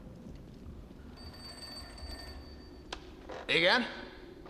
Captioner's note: phone rings